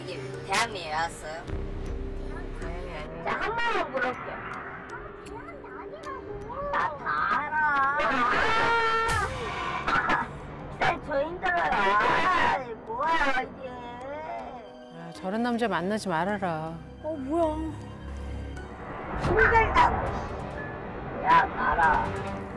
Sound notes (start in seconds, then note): 8.3 the man suddenly starts causing a scene, screaming loudly; 19.2 whack!